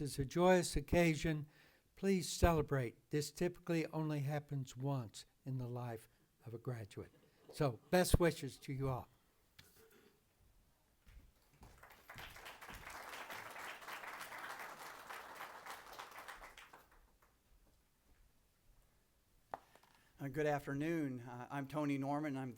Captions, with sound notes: This is a joyous occasion. Please celebrate. This typically only happens once in the life of a graduate. So, best wishes to you all. (applause) Good afternoon, I'm Tony Norman.